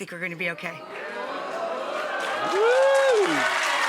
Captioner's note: audience cheering and applauding